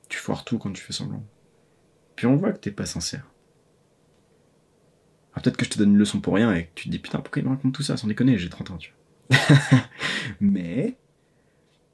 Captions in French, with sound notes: parce que tu foires tout quand tu fais semblant. Et puis on voit que tu n'es pas sincère. Peut-être que je te donne une leçon pour rien et que tu te dis "Putain pourquoi il me raconte tout ça, sans déconner, j'ai 30ans." *rires* Mais...